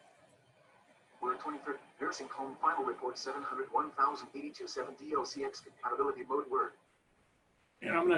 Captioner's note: computer talking